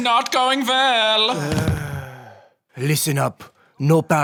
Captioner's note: Macron sighs